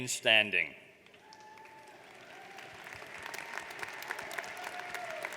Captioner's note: audience applauds